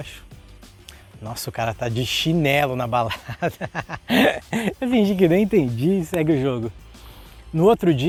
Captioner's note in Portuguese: risos